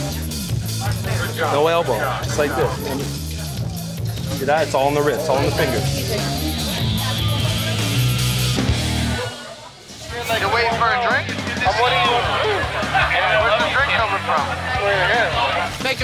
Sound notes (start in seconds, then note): 0.6 chatter